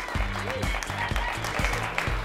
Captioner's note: applause